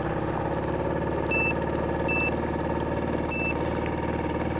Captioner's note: sonar beeping